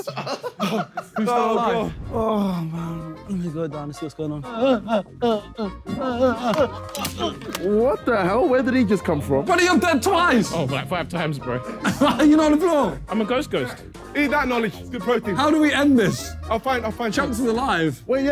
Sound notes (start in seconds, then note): 0.0 laughing; 6.4 groaning